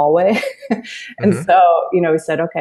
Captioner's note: laughs